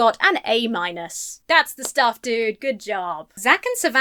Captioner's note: claps